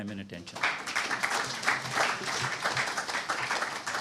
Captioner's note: applause